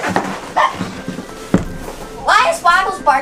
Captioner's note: dog barking